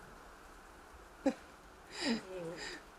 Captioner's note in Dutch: lacht